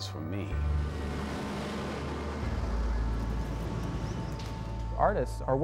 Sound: tractor engine roars

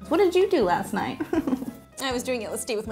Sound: giggling

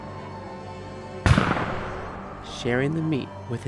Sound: gunfire cracks

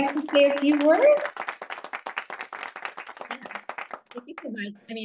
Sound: hands clapping

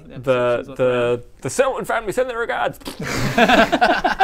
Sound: pfffpt; messy laughter

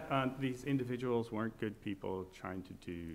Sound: laughing

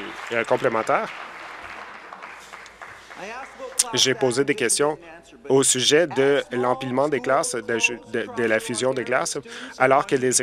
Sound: applause

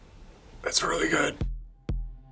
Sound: strained

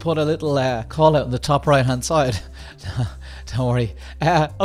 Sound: laughs

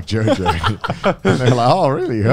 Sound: laugh

